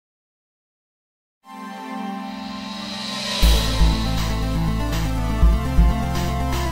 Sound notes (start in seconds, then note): 0.0 silence